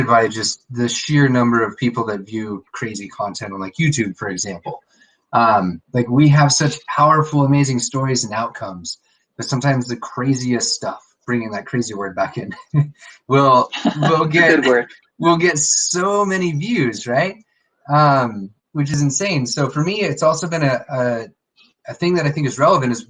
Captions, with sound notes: by the sheer number of people that view crazy content on YouTube, for example. We have such powerful, amazing stories and outcomes, that sometimes the craziest stuff, bringing that crazy word back in (laughs) will get so many views, right? Which is insane. So for me, it's also been, a thing that I think is relevant,